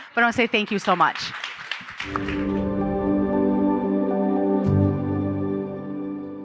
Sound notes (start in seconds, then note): 0.1 audience applauding; 2.0 ethereal music